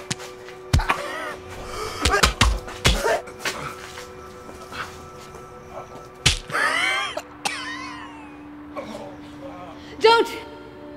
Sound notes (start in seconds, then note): 1.6 gags; 6.2 spine cracks